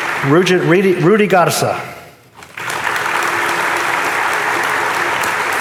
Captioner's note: audience applauding